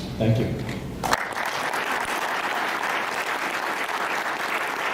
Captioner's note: audience applauds